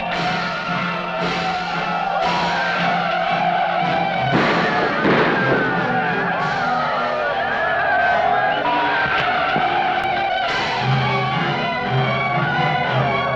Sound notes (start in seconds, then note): 0.4 tense music; 4.1 gunshots blasting; 4.8 Yaqui shouting; 10.6 tense music